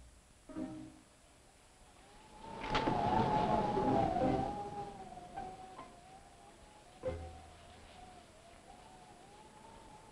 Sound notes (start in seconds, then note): 1.3 wind howling; 1.7 pensive music